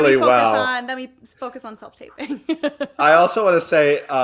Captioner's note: laughs